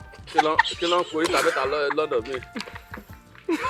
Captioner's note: everyone laughs